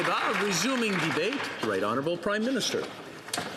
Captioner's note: some Applause